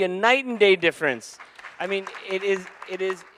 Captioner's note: audience applauding